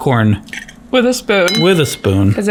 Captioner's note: spoon clatters